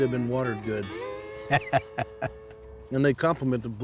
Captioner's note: laughter